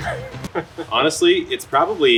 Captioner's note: laughing